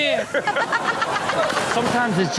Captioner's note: Chanel laughs